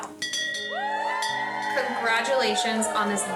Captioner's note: workers cheer